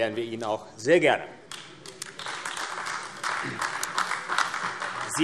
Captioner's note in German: Beifall AfD